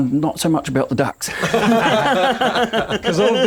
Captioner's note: laughter